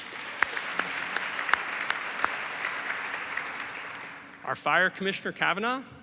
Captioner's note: audience applauds